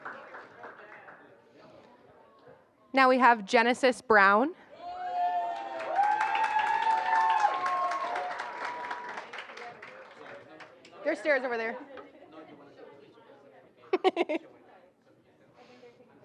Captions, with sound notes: Now we have Genisys Brown. [APPLAUSE] There's stairs over there. [INDISTINCT CHATTER]